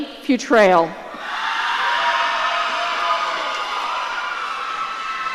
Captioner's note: audience cheering